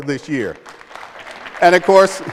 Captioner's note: applause